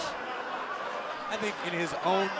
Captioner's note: fans chanting